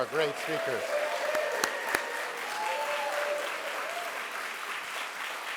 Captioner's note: audience applauds